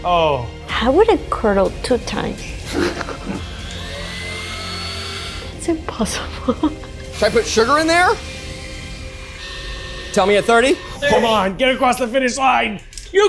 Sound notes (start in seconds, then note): 7.1 laughs